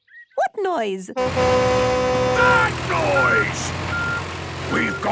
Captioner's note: tractor noise; screaming